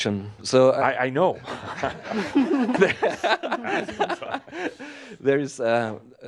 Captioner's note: laughs